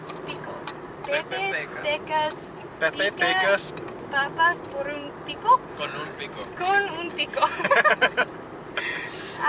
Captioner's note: laughter